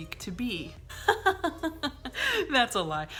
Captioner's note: laughs